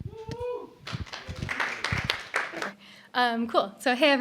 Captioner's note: applause